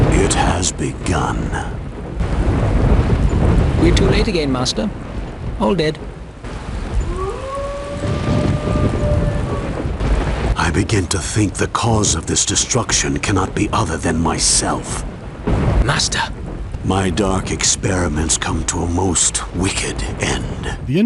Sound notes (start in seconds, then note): 2.1 thunderclap